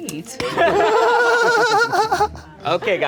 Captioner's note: everyone laughing